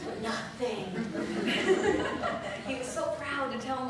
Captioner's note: laughter